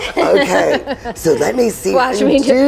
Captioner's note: laughs